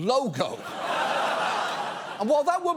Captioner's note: audience laughs